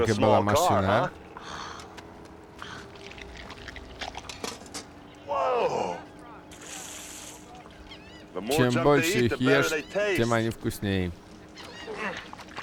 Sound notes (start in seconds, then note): 10.0 grunts; 11.0 squishing